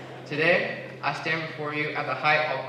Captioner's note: laughter